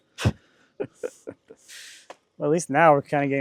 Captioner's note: laughing